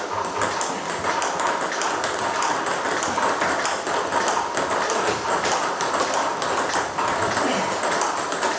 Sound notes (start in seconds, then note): 1.9 balls ping pong hitting continues